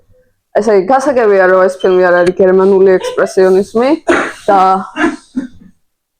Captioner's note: giggle voices